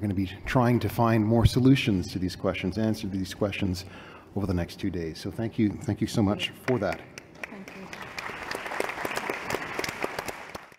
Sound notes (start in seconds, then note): 6.6 applause